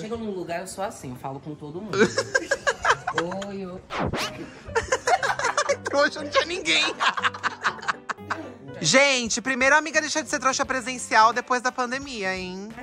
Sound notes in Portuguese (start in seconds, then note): 4.4 riem; 8.1 risos